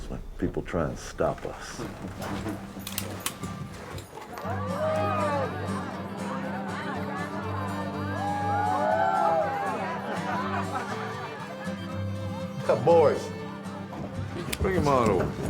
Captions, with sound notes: when people try and stop us. (guns clicking) (lively melodic music) (background people chattering) Boys, bring them on over here.